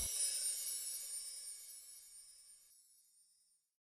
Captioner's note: chimes